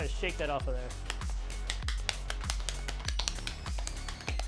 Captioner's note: paper flicks